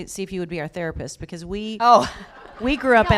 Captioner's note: laughter